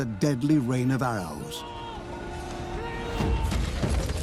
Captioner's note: shouts